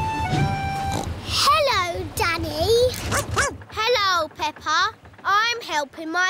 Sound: snorts; barks

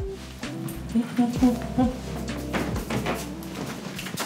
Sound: humming

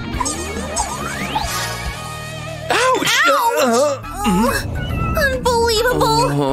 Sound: whistles

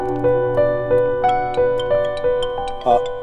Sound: phone ringing

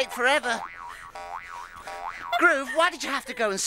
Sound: bouncing

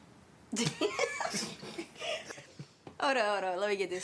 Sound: L and Hailey laugh

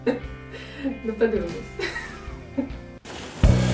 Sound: laughs

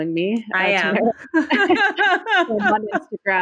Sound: both laugh

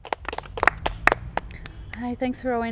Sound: applause

